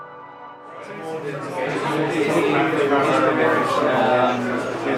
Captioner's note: crowd chattering